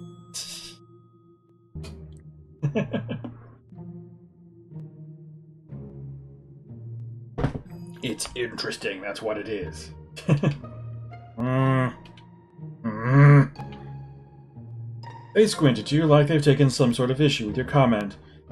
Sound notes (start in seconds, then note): 0.2 laughs softly; 2.6 chuckles; 10.2 chuckles